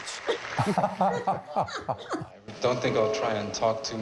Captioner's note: George and Rita laugh